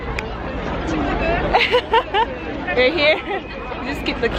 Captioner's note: fake ass laugh of guilt